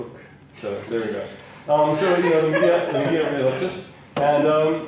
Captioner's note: laughter